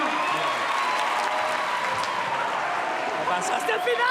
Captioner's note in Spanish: Aplausos y vítores